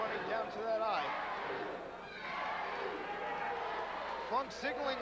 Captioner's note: crowd cheering